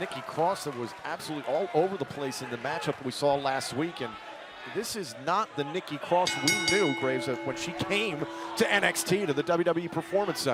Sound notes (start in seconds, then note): 6.2 bell ringing